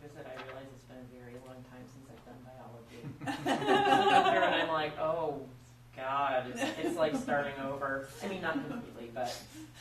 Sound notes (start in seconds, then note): 3.1 group laughs